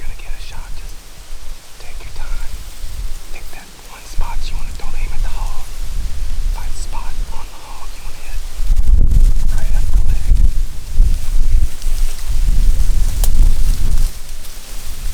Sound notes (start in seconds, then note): 6.8 whispering